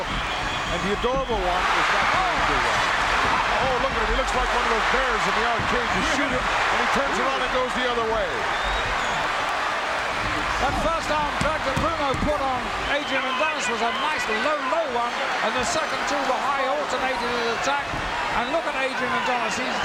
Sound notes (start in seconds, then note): 9.3 audience cheering